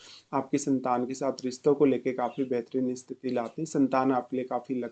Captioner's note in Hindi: नाक से की जाने वाली आवाज़